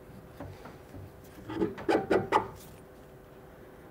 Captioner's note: scraping sounds